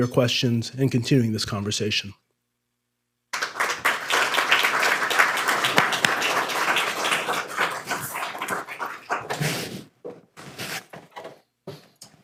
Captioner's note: applause